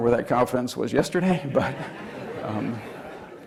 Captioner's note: laughter